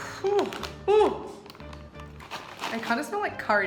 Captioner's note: exclaims in disgust